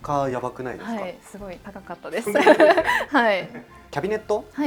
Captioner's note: laughs